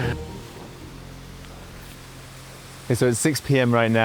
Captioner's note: rain pattering